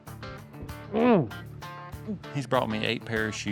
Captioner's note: groans